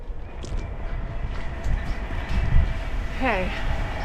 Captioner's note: train